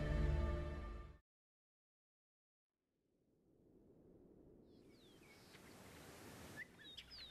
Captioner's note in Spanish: Silencio